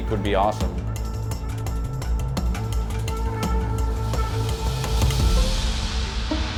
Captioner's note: dramatic music; engine revving